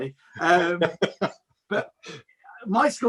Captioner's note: chuckles